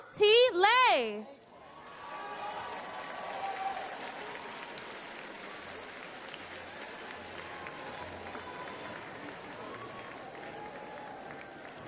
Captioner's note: applause